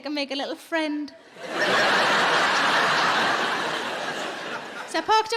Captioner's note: audience laughing